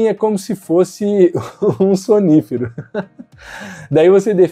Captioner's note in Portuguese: risos